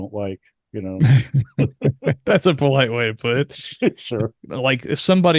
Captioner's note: laughs